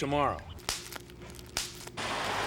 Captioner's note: popping